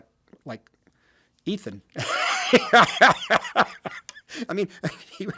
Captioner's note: Martin laughs